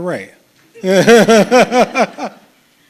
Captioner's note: chuckles